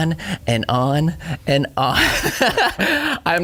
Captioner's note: laughing